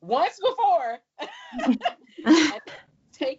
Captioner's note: laughs